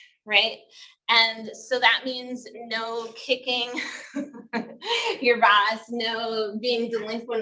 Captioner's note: laughs